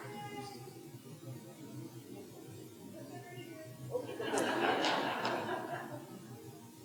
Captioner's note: audience members talking and laughing off microphone